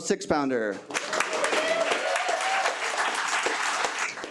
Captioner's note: attendees cheer